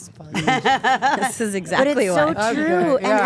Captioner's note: Stephanie laughs